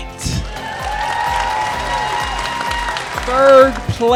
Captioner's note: audience applauding and cheering